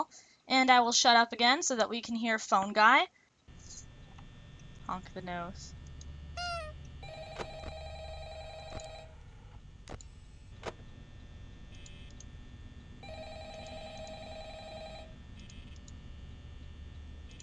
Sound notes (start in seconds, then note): 6.3 honk; 6.9 phone ringing; 12.9 phone continues ringing